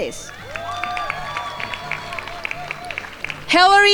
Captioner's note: crowd applauding